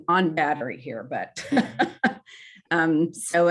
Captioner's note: laughs